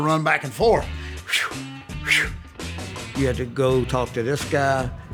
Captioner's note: whooshes